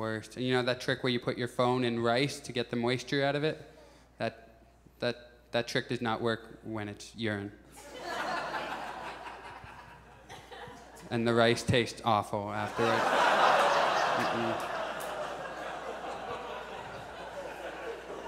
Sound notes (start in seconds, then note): 7.8 audience chuckles; 12.6 audience laughs